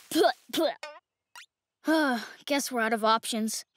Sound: sputtering; sighs

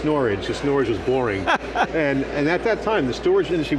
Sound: laughs

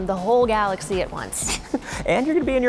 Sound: laughing

